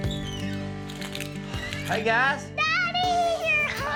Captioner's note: door squeaks open